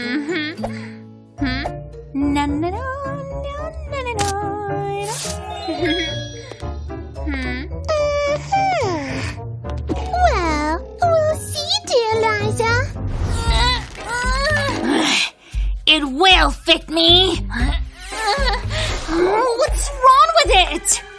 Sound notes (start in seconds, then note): 0.1 singing; 9.5 groans